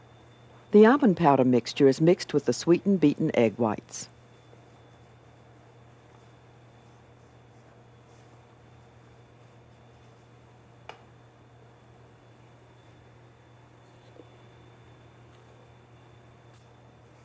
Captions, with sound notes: - [Voiceover] The almond powder mixture is mixed with the sweetened, beatened egg whites.